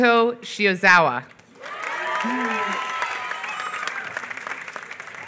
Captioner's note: applause